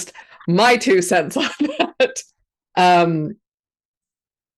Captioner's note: laughs